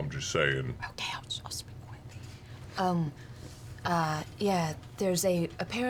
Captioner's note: whispering